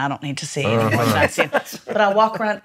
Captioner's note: laughs